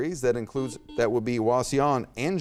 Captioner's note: buzzer beeps